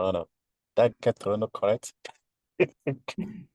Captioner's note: laughs